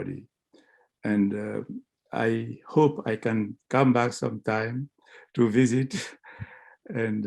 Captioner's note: laughter